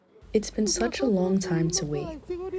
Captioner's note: through translator